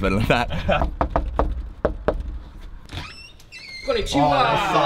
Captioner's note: knocking